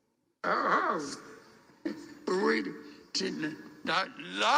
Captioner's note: stutters